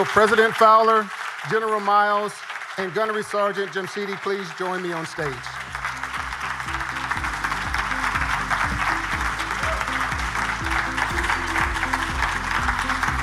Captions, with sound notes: Will President Fowler, General Miles and Gunnery Sergeant Jamshidi please join me on stage. (audience applauding) (upbeat music)